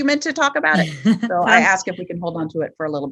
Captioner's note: laughs